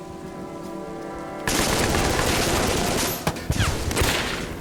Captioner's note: gunfire